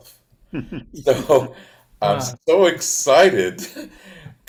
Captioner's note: participants chuckles